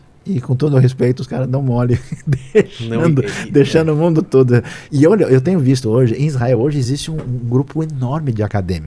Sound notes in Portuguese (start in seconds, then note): 1.9 risadas